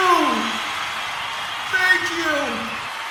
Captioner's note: deafening cheers die down